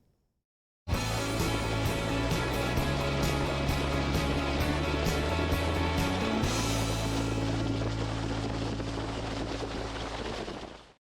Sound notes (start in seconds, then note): 4.6 wind whistling; 5.3 waves splashing; 8.4 upbeat music